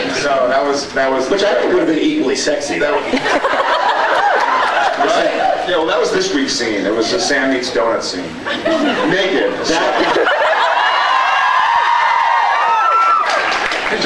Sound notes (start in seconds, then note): 3.0 laughs; 9.8 scattered laughs; 10.2 laughs, screams, applauds